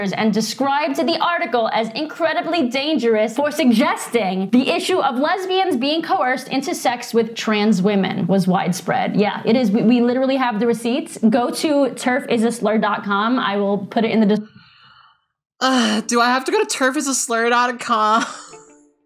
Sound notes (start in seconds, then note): 15.6 scoffing and sighing